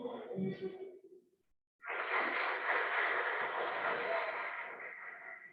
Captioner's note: applause